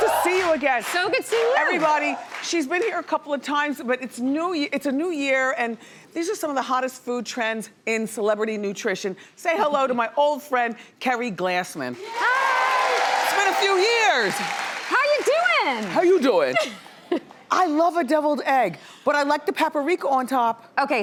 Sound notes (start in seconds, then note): 12.0 crowd cheering; 17.1 laughing